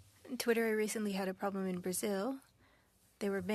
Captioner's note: speaking French